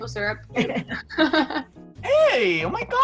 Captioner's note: laughs; participant 2 laughs